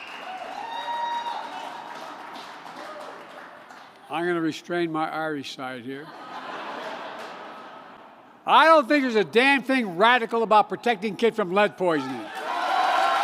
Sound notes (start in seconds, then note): 0.0 laughter and applause; 6.0 laughter